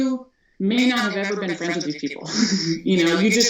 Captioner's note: laughs